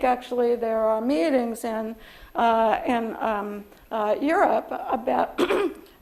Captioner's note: coughs